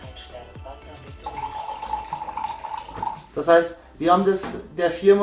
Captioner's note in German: Wasser läuft heraus, Anzeige blinkt rot